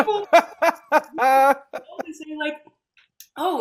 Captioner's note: laughing